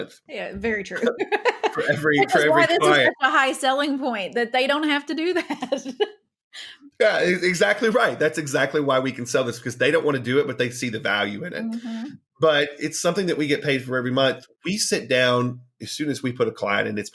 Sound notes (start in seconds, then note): 0.8 chuckling; 7.0 laughing